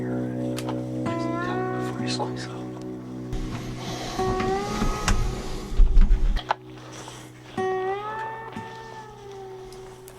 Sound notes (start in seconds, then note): 2.4 whispering; 5.1 western guitar music